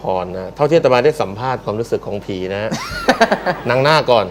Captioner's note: laughter